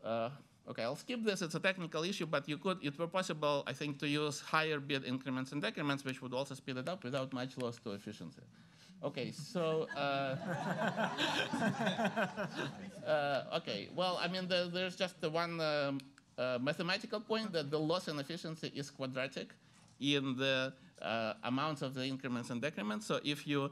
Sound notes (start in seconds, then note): 9.7 laughter